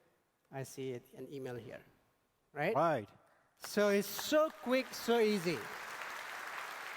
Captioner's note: applause